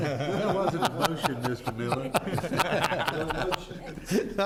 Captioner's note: laughing